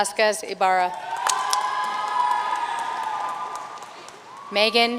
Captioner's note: audience cheering and applauding